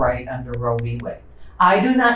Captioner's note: words click